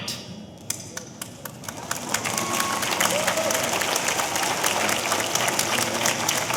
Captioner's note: audience applauding; audience cheering